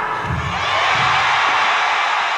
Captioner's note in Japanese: 歓声